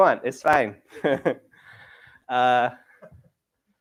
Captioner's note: chuckles